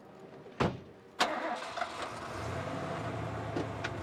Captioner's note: engine starting